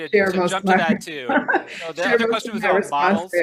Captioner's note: laughs